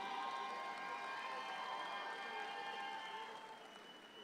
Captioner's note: audience cheering